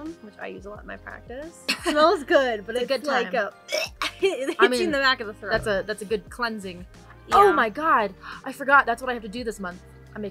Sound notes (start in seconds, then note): 3.6 gags and laughs; 3.6 laughs